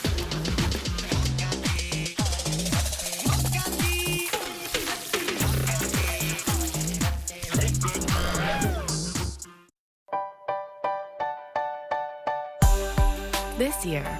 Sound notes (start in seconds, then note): 0.0 bacon sizzles; 5.0 electronic music plays; 7.7 bacon sizzles